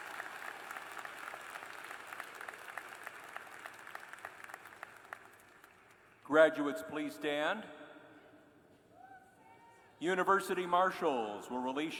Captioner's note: cheers and applause